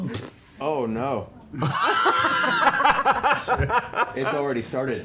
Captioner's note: laughter